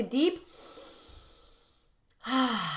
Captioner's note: inhaling